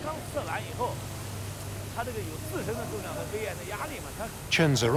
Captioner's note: man speaking Tibetan